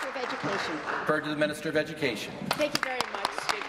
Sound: applause

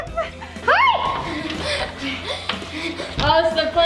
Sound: screams

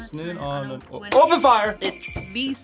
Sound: bells jingling

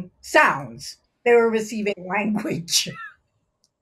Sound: laughs

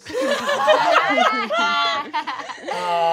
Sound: laughing

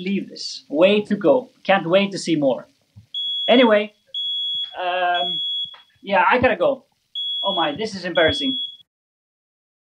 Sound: fire alarm beeping

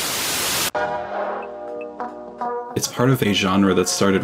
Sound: TV static buzzes

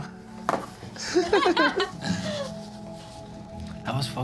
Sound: laughter

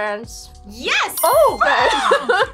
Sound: bell dings

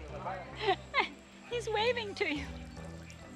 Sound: laughs

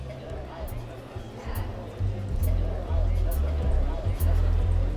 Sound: airport terminal sounds

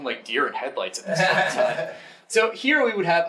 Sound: audience laughing

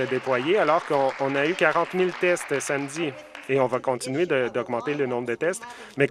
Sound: some Applause

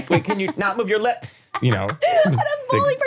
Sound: laughing

